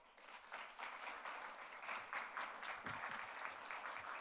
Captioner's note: audience applauds